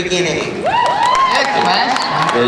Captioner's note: cheering